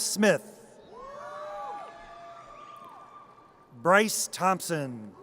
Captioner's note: audience cheers